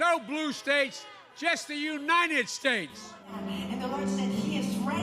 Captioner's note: cheers and Applause